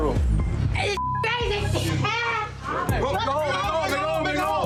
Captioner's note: beep